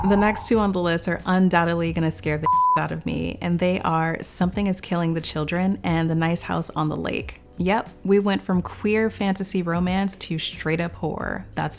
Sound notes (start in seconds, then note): 2.5 beeping